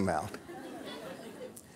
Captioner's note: audience laughter